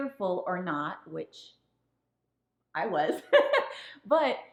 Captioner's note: woman laughing